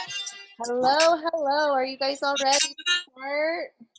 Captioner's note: murmur